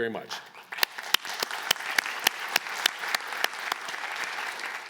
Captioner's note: applause